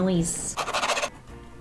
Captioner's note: pencil scraping